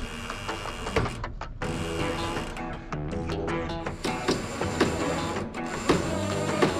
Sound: levels creaking; southern rock music

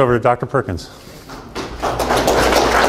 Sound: students applaud

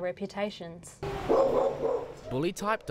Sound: dog barking

